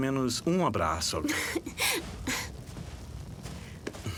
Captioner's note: giggles